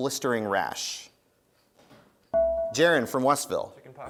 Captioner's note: dinging